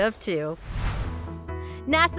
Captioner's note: whooshing